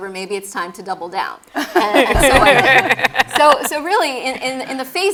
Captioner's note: laugh